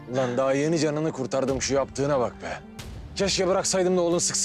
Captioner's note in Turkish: none